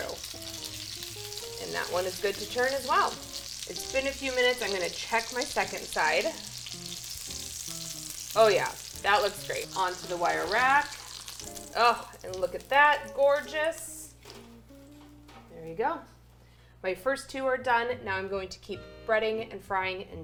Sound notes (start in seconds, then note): 0.2 oil sizzling; 6.5 oil sizzling